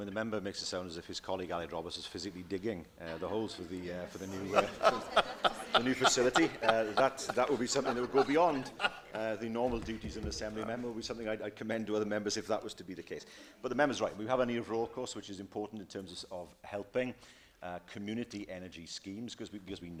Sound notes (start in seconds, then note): 4.3 laughter